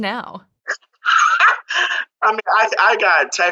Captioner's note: laughs